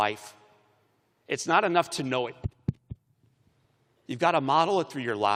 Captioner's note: thumping microphone